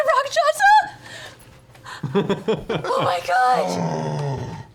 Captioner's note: laughs